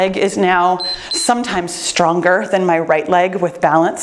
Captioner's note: timer beeps